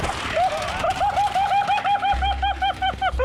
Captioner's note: laughing